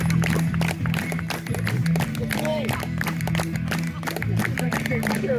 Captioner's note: rock music; applause